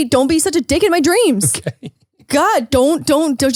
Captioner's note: laughs